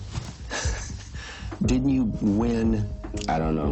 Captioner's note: laughs